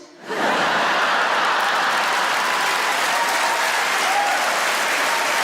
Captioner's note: audience laughs and applauds